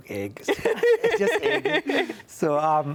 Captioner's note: laughs